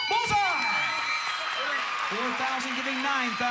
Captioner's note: audience applauding